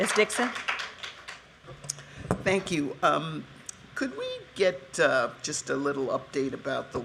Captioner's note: applause